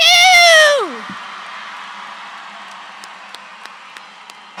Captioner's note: audience cheering